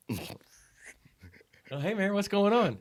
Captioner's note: laughing